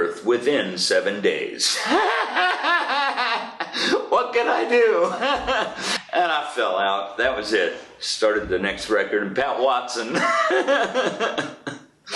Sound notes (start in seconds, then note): 1.7 sustained laughter; 4.6 laughs; 10.1 laughs